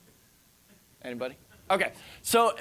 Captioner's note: audience laughing